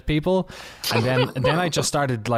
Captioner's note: laughter